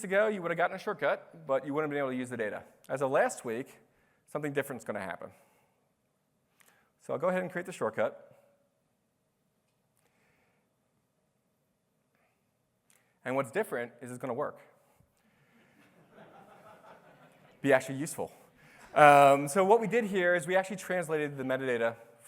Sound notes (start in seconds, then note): 15.7 laughter